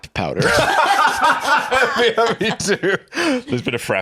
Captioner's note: laughing